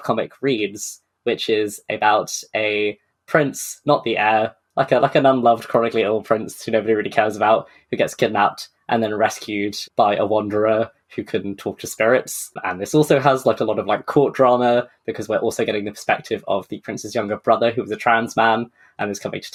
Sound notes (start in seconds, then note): none